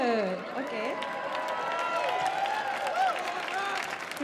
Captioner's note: audience cheering